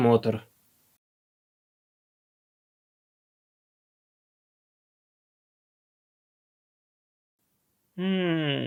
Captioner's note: silence